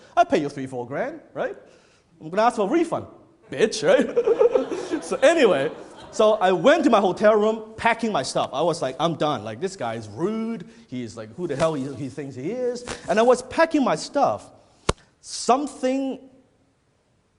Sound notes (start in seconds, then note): 3.9 laughs